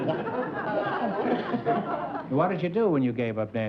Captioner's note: laughs